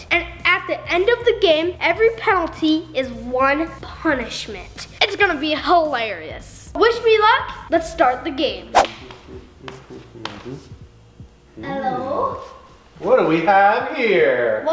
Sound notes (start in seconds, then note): 8.7 humming